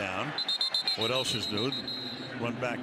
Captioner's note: whistle blows